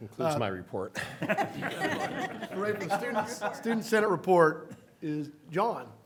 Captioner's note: laughter